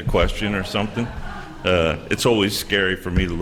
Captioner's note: laughter